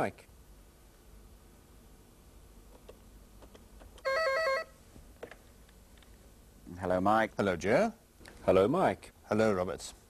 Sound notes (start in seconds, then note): 0.2 pause; 2.4 telephone rings